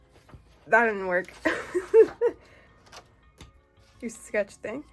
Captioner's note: laughs